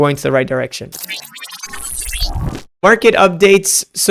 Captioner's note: electric whooshing